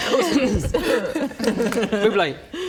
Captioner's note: mortally offended giggles